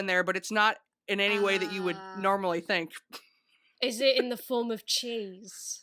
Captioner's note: laughs